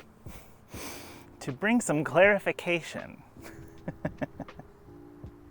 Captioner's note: laughs